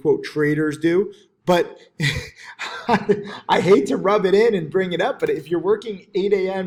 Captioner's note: chuckles